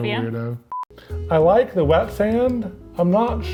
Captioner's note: screen beeps